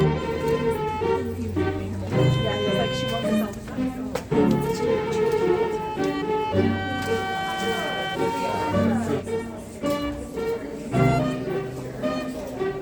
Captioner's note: indistinct chatter